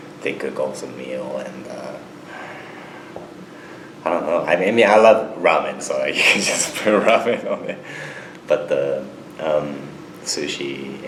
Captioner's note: both laugh